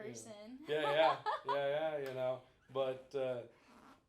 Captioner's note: laughing